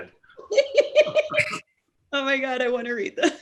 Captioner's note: laughing